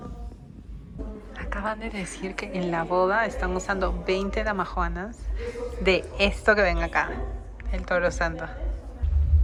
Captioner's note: whispering